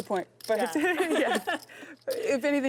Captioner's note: laughing